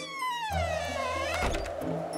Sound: door squeaking, closing

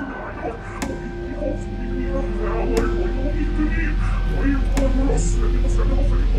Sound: ball slowly bouncing on floor

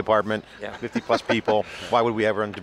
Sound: laughs

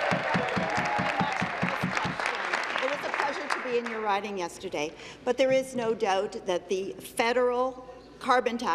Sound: cheers; applause

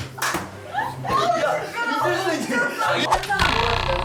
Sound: laughing

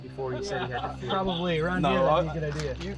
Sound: laughter

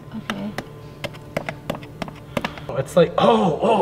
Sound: screwdriver tapping

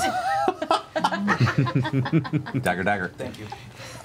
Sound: all laugh

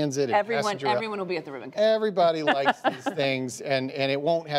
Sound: laughter

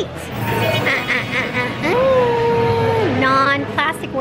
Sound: creepy laugh

